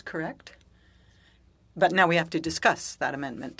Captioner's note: speaking French